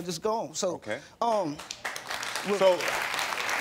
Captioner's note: audience applauding